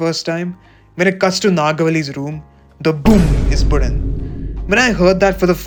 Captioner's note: boom